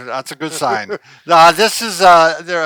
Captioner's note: chuckles